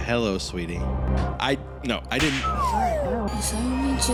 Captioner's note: laughs